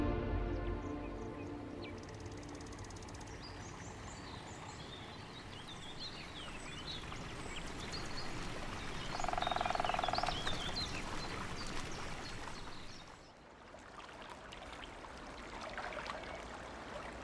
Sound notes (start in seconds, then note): 2.6 birds chirping and rippling water